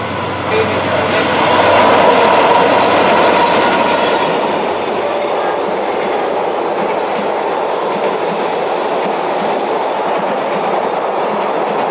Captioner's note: train sound